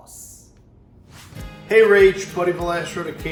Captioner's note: air whooshes